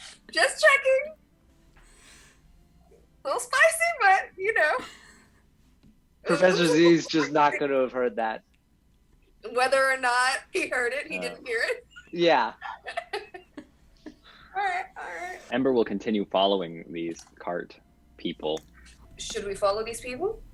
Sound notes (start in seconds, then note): 12.6 cast laughs